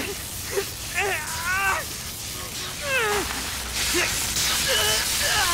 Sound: wincing

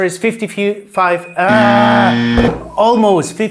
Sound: buzzer sound

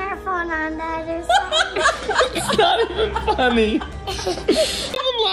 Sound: laughs

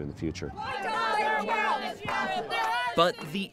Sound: crowd protesting

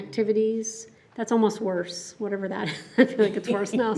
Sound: chuckles

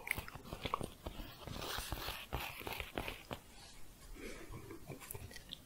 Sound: scratching and tapping

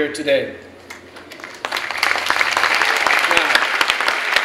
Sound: clapping

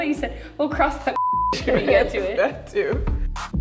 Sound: beep

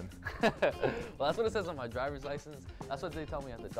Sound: laughs

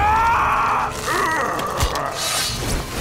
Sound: screaming; grunting

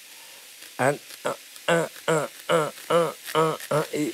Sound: grunting

